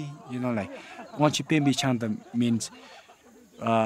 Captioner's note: speaking in foreign language